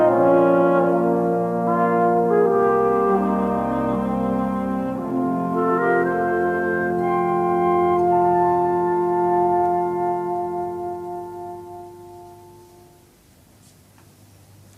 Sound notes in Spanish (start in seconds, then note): none